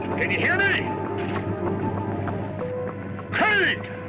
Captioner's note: machinery whirring